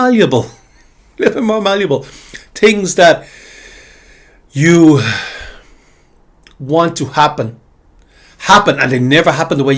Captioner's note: sighs and gasps